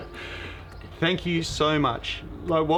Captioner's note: laughing